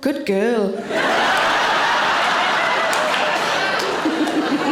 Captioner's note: audience laughing